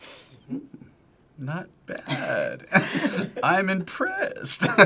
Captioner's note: both laugh; laughs